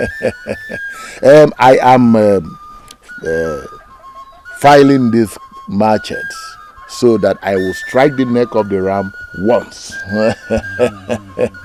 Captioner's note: laughter; laughter